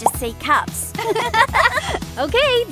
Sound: both girls laugh

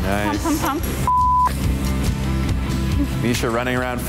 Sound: beep

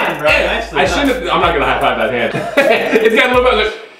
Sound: laughs

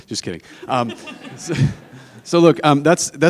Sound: audience laughing

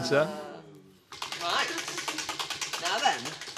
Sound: wheel clacking

